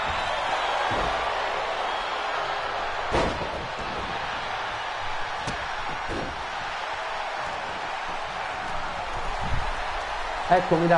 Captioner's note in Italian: Applauso